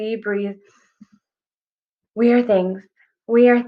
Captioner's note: deep breath